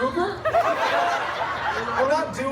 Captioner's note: guests laughing